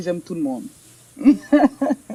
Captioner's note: speaks in French